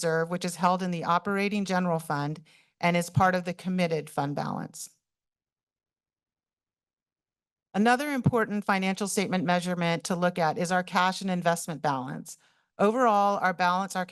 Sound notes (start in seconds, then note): 4.9 pause